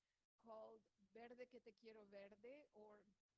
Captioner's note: speaks foreign language